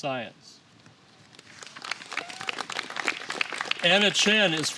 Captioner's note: applause